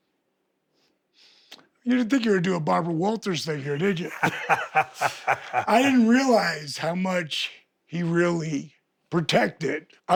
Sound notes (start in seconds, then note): 3.5 Steve laughing